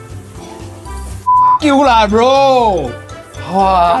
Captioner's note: beep